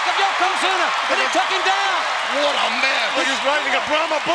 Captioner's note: audience cheers